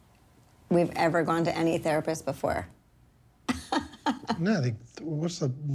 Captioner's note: laughs